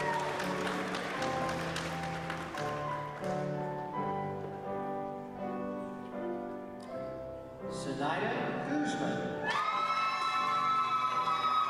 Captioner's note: applause